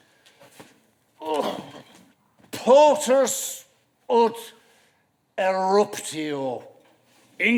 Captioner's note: grunts